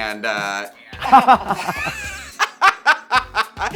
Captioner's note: Baga chuckles; chuckles